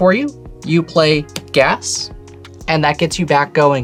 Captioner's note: card slaps